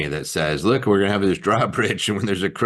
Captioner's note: chuckling